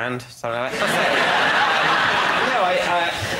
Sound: laughter

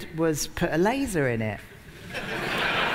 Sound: laughter

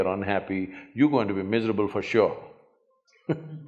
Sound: laughs

